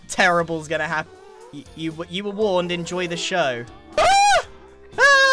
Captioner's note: ghasts whining; screams